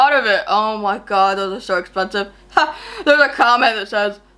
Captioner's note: laughs